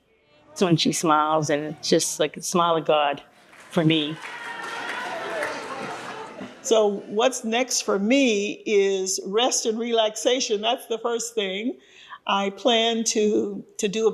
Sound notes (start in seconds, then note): 3.3 applause